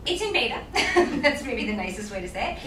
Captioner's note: laughs